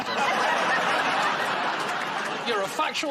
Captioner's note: laughter